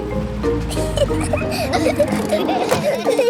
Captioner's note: children giggling